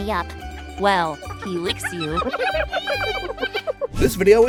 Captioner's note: hyena laugh